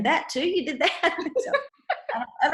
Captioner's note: laughs